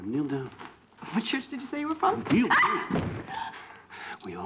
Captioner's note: shrieks